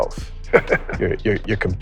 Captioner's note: laughs